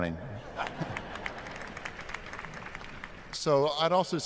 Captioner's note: applause